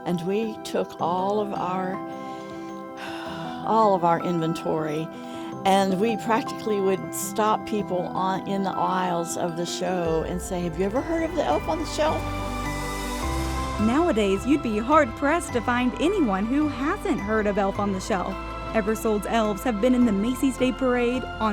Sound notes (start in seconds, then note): 3.0 sighs